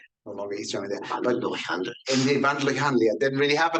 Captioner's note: man speaking in foreign language